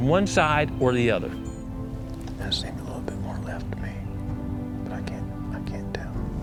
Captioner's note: whispering